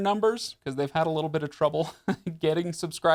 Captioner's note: laughs